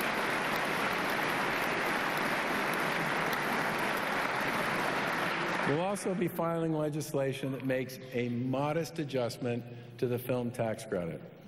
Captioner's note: applause